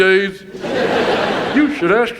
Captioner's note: audience laughs